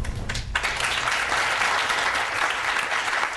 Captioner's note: applause